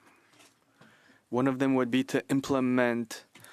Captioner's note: speaking French